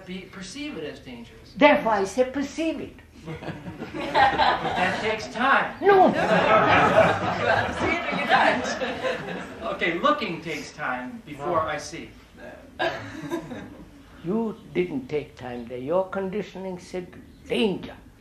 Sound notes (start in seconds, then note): 5.1 laughter; 8.7 laughter